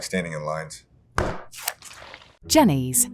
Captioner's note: tub thudding